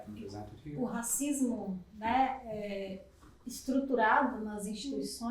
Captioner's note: speaking portuguese